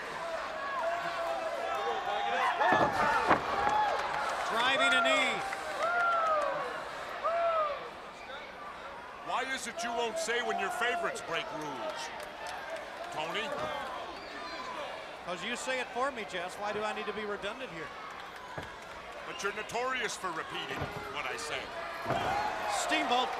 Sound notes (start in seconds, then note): 0.0 crowd chatter